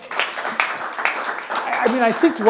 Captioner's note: audience clapping